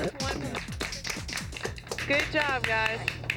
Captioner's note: light applause